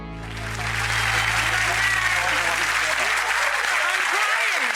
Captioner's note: audience clapping